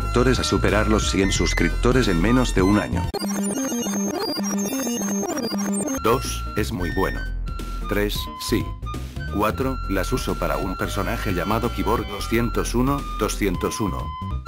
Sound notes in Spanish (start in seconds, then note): 3.1 Sonido de rebobinado